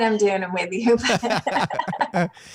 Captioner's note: laughs